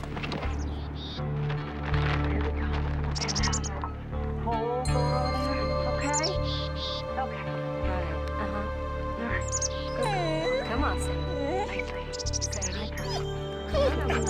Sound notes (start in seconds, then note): 9.7 dog whimpers